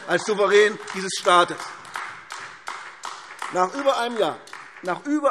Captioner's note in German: Beifall AfD